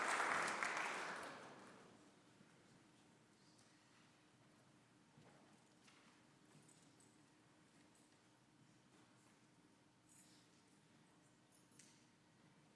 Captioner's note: applause